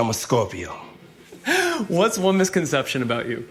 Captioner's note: laughing